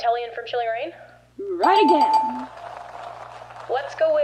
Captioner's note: audience applauds